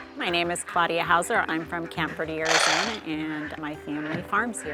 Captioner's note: food clinking